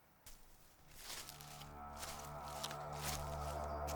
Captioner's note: footsteps thumping; suspenseful music